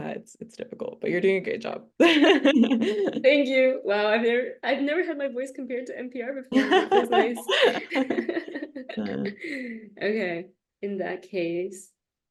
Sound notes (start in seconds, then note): 6.5 laughter